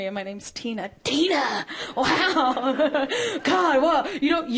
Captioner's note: chuckling